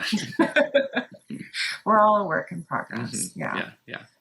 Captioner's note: laughs